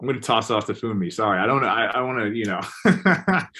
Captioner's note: laughs